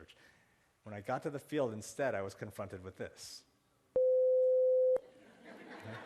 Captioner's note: beeping sound